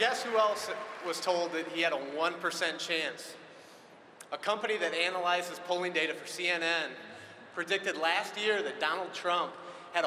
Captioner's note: cheering and applause